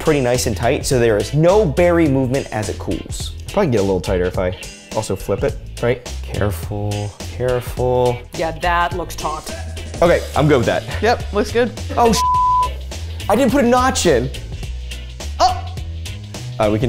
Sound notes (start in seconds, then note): 12.1 beep sound